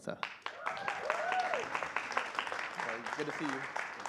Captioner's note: cheering and applause